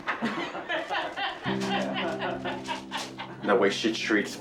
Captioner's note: both laughing